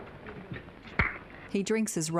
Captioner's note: making popping sound